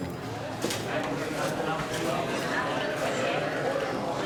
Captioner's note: indistinct chatter